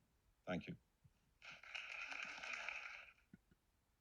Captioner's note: clapping